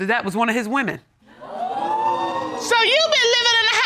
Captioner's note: audience gasps